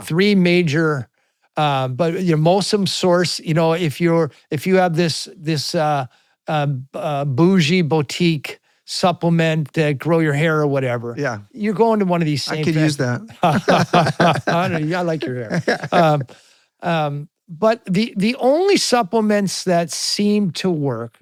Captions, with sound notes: Yeah, three major, but your MOSOM source, you know, if you have this bougie, boutique supplement grow your hair or whatever, you're going to one of these same things. I could use that. (both laughing) I like your hair. But the only supplements that seem to work